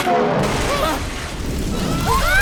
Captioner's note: sound of scaffolding collapsing